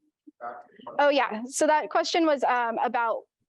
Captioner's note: student quietly talking